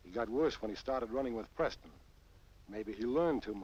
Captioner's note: none